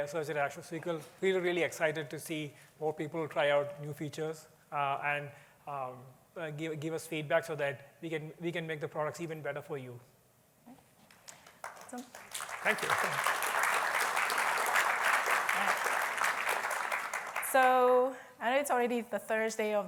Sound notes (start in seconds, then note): 10.4 applause; 12.9 applause